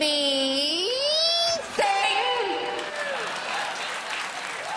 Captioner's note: applause